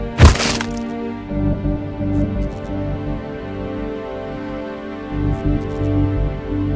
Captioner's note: somber music; gun blasts